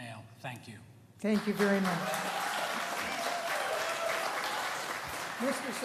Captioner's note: applause